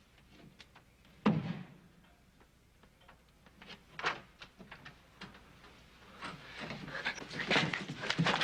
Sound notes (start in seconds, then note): 1.3 fist thuds